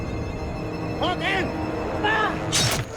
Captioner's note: shouting in Maya